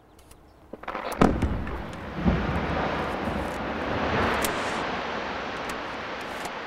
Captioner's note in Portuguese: explosão